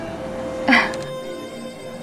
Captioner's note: Falguni chuckles